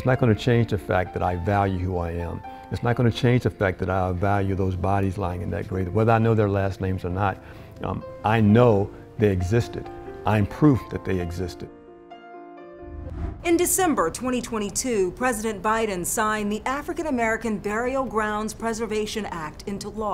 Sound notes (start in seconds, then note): 11.9 soft music; 12.8 air whooshes